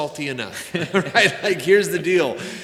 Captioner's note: laughing